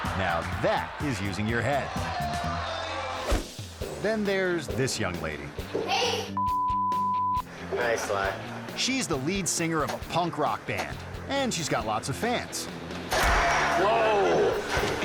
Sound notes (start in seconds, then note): 2.2 air whoosh; 2.2 audience gasping; 5.8 rock music; 6.4 beep; 12.9 rock music; 14.0 singer crashing